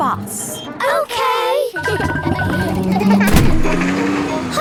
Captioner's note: kids laughing